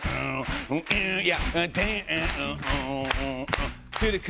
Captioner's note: imitating guitar playing